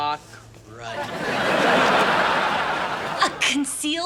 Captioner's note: audience laughing